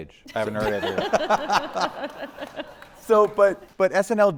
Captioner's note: everyone laughing